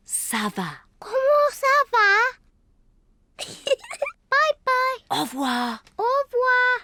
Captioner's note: giggles